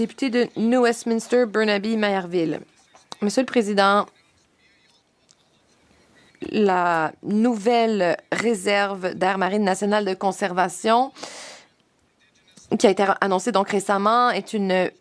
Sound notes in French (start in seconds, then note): 3.2 voix de l'interprète